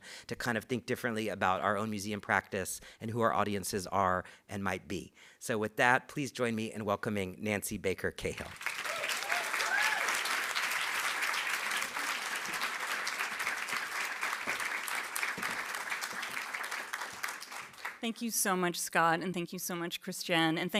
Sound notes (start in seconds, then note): 8.4 audience applauding; 8.6 audience cheering